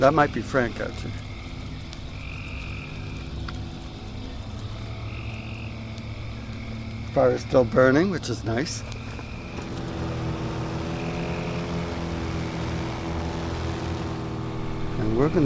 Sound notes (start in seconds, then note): 1.7 crickets; 1.7 distant motor revving; 8.8 motor revving